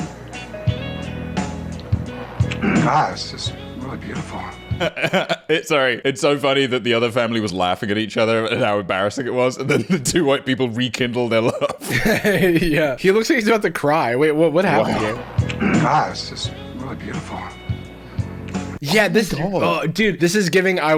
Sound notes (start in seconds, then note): 0.0 romantic music; 4.7 laughing; 11.5 laughing; 17.5 romantic music